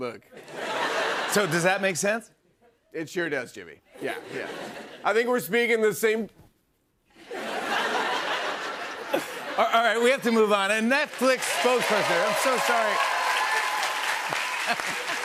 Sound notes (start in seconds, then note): 0.4 laughter; 6.2 no audio; 7.1 laughter; 13.3 cheers and applause